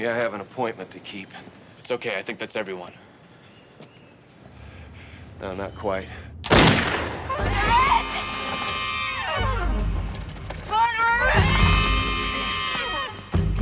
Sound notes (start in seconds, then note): 6.4 gun fires; 9.3 dramatic music; 10.8 screams